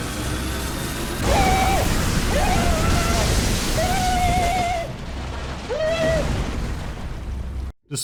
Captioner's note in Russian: чудовищный крик Марва